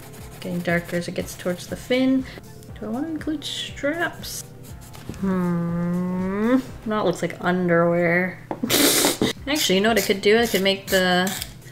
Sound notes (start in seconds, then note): 8.6 laughs